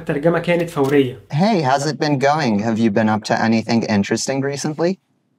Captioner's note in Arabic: بيتكلم انجليزي